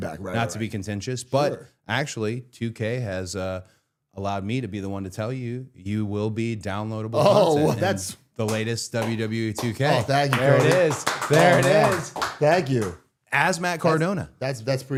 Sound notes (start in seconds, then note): 8.9 clapping; 9.5 audience clapping